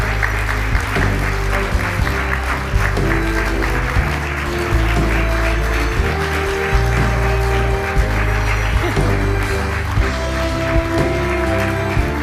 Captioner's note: applause